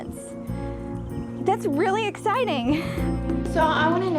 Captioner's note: laughs